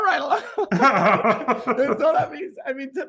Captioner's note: laughing